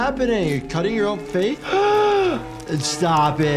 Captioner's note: doctor gasps